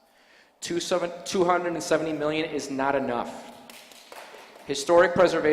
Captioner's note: applause